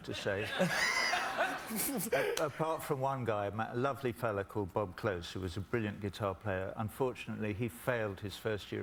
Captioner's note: laughter